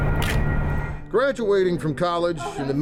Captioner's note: camera shutter clicks